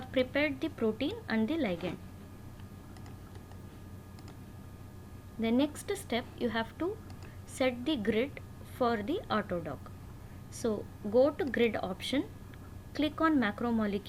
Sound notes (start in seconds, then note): 11.4 click